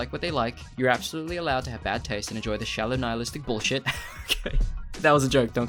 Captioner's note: laughs